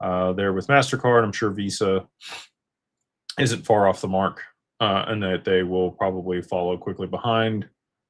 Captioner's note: snorts